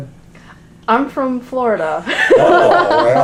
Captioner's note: laughter